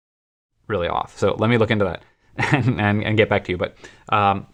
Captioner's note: laughter